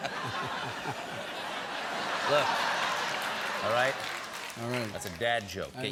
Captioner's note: laughter